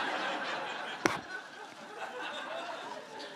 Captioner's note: laughter